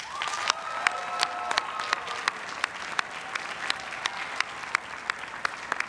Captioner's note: everyone cheering and applauding